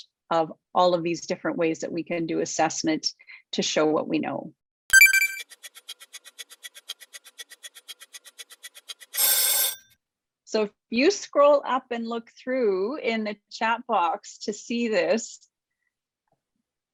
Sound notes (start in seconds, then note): 4.9 timer sound ticking; 8.9 timer rings